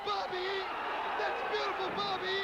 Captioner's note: crowd cheering